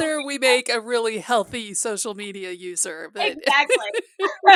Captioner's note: laughter